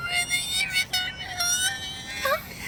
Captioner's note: indecipherable whimpering